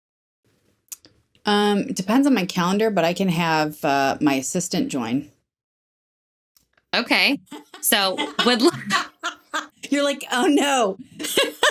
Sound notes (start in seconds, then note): 7.4 women laughing